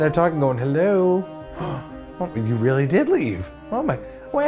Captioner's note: gasp